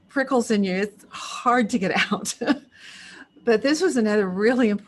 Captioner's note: chuckles